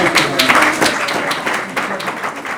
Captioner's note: applause